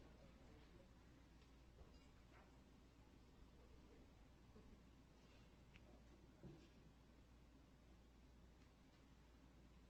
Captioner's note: quiet chattering